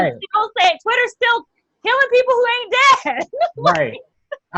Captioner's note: laughs